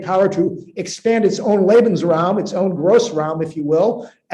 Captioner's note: speaking german